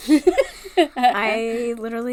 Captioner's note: laughs